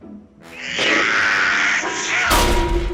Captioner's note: blows air